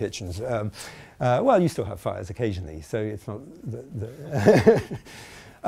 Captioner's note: laughing